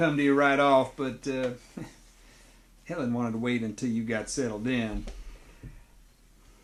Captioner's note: chuckles